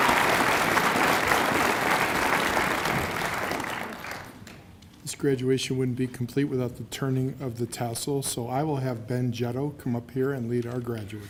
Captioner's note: cheers and applause